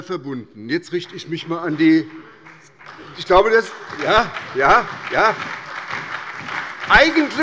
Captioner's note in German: Beifall bei der SPD